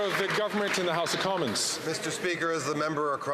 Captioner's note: applause